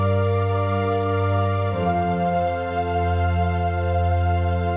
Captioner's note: tinkling chimes